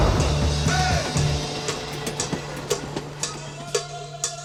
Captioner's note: train roars